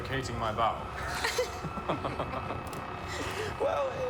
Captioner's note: all chuckling